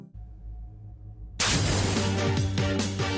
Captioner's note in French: zap